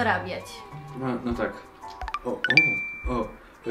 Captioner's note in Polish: dźwięk Tindera